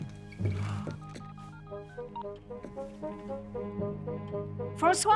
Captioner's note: phone dialing